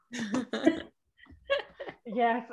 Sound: laughing

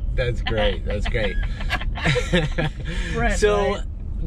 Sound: laughing

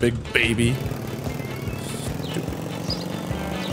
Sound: quietly

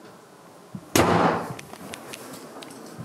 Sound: loud bang!

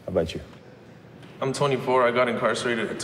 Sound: none

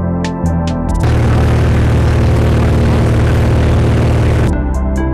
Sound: loud Plane Engine Noise

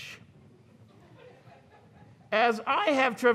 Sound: audience chuckles

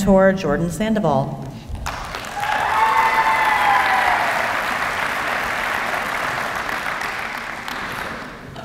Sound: applause

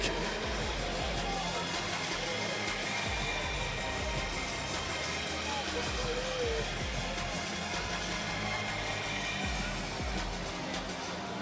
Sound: speaking foreign language

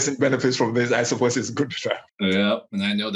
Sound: microphone cuts out

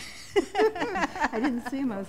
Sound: laughter

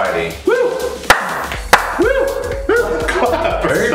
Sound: cheering

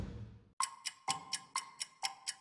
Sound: clock ticking

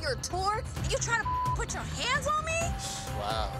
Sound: beep

